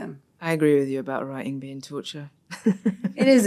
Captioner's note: laughs